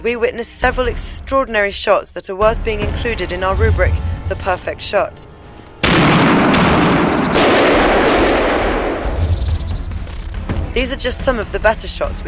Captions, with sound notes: we witnessed several extraordinary shots that are worth being included in our rubric "The perfect shot". [gunshot] [gunshot] These are just some of the better shots